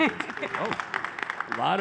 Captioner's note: applause